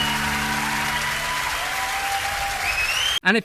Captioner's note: crowd cheers